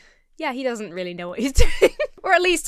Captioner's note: giggles